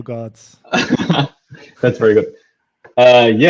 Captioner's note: laughing